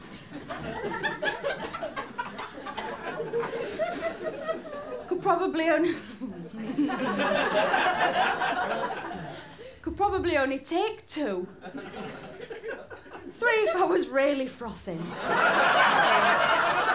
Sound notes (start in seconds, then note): 0.1 laughter; 6.1 falters; 15.0 laughter